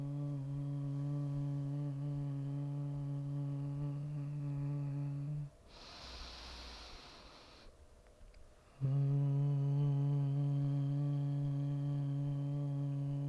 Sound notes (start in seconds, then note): 0.0 humming; 5.6 inhaling; 8.7 humming